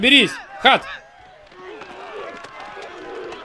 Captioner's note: grunting